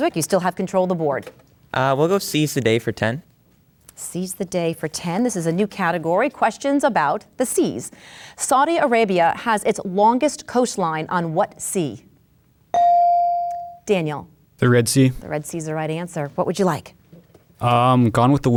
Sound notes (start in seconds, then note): 12.7 bell dings